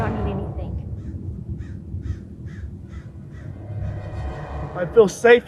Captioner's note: intense music; crow caws